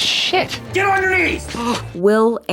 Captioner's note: Nomi gasps